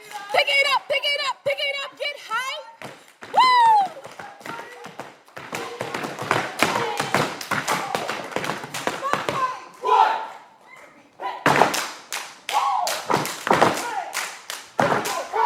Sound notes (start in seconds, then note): 9.2 all chanting